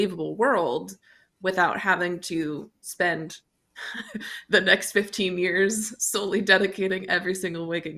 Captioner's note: chuckles